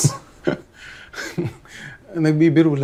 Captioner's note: chuckles